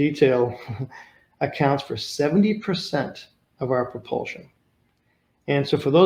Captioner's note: chuckles